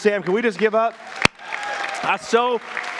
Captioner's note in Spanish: congregaciones gritos y palmas